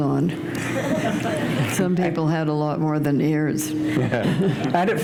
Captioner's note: chuckle